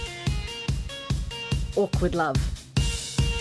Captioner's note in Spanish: Voice over